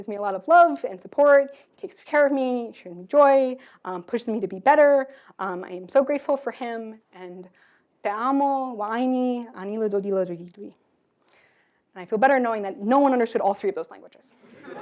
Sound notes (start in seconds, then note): 9.0 non-english speech